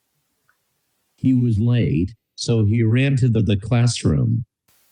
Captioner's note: AI speech